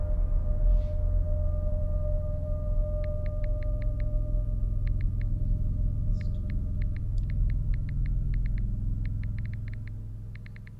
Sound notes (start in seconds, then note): 3.2 phone clicking